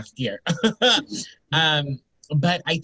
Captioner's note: chuckles